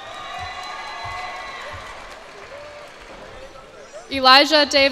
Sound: cheers and applause

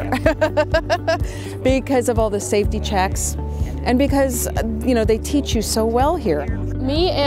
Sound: laugh

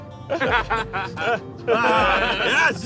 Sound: laughing

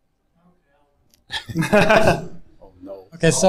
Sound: group laughs

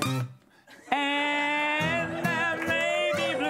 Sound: cheers and applause

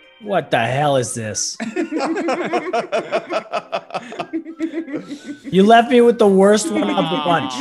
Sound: laugh

